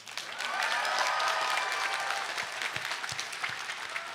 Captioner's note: audience cheering